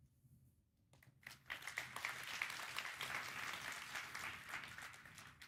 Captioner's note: applause